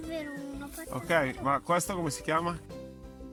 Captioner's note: in German